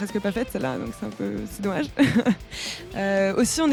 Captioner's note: laugh